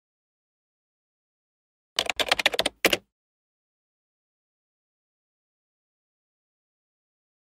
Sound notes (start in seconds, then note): 2.0 keyboard taps